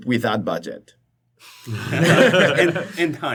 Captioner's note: laughter